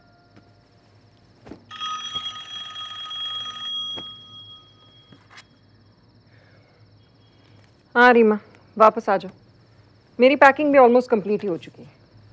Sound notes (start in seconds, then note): 1.6 phone ringing